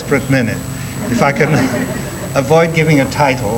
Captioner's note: audience laughing